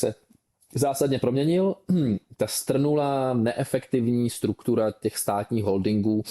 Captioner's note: clears throat